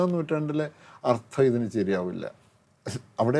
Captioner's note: none